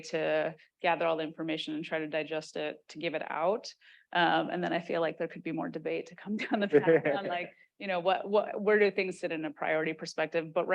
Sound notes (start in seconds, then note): 6.7 chuckles